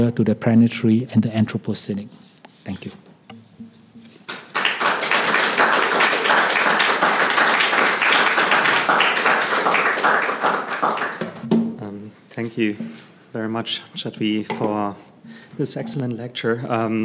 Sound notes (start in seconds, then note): 4.2 applauds